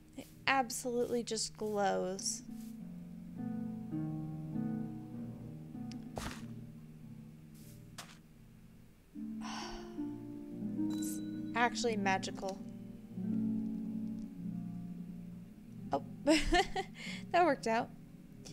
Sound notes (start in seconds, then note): 5.0 sighs; 14.7 laughs